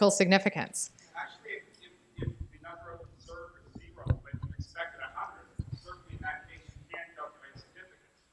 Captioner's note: background Discussion